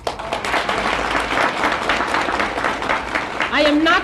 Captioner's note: applause